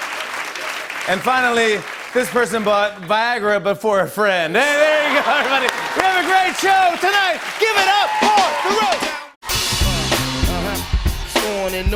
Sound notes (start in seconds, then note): 0.0 applause; 3.7 laughter; 8.2 cheers and applause